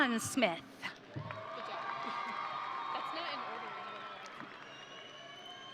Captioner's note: audience cheering